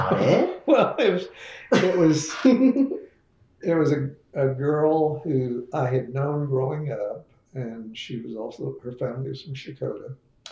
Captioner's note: laughs